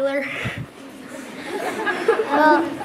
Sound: laughter

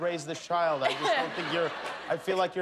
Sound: laughter

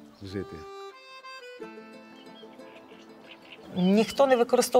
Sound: birds chirping

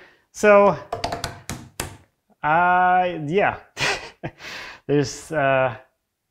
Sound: laughs

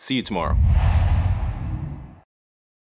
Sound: logo swooshes

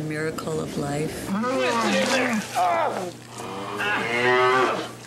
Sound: cow moos

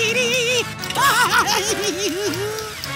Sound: giggling

